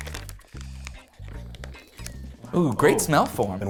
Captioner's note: plastic rustling; upbeat instrumental music